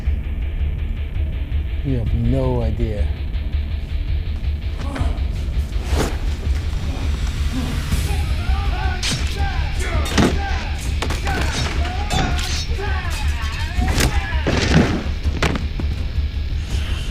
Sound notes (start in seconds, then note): 8.5 dramatic music; 8.5 men yelling; 9.8 thudding; 13.0 clattering